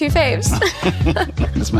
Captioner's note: both laugh